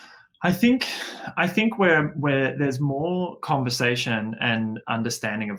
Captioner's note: sighs